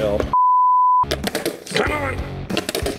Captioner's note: computer beeps